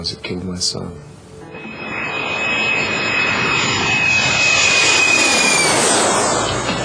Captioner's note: jet engine